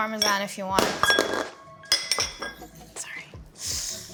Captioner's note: bowl clinking